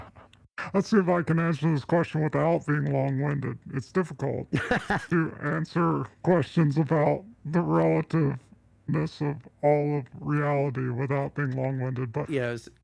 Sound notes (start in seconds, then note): 4.5 Alchemist laughs